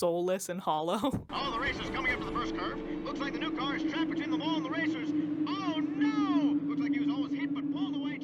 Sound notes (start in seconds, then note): 1.2 race announcements while a hollow wind blows